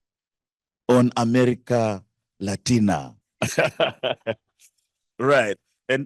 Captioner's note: laughing